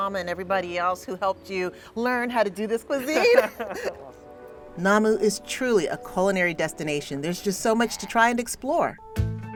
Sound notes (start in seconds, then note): 3.0 laughs